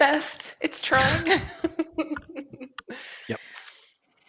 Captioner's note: laughter